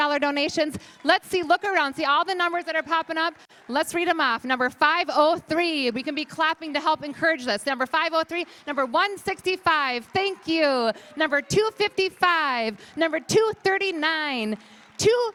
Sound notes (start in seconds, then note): 8.0 applause